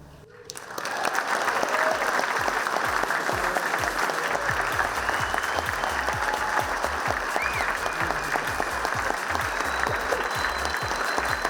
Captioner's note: clapping